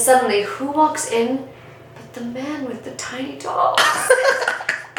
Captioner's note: laughing off camera